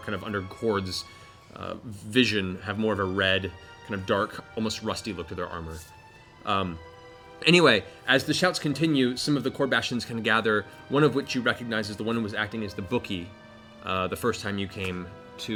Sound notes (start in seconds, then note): none